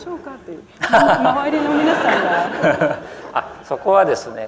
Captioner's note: laughter